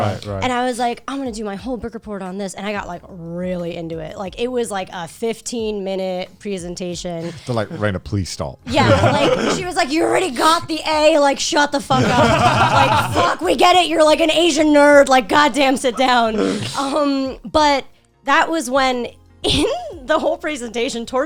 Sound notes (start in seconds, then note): 0.0 group agreeing; 8.6 group laughing; 11.9 group laughing